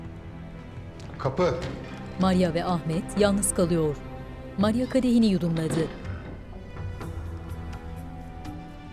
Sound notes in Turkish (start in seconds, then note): 1.5 Kapı açılma sesi; 1.5 Kapı gıcırdama sesi; 5.5 Kapı gıcırdama sesi; 5.5 Kapı kapanma sesi